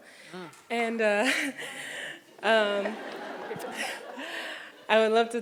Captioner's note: audience laughs